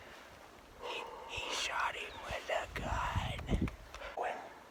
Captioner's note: heavy breath